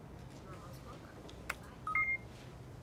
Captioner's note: computer beeping